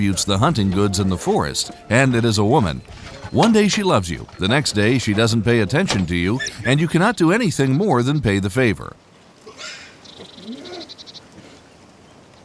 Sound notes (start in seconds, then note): 10.2 boar sqealing